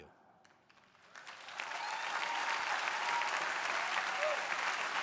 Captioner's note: crowd applauding